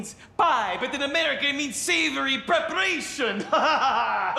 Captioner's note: laughing